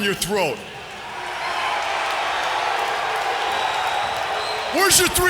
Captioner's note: crowd cheering